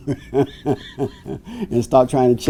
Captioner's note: laughing